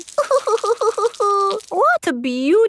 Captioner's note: crying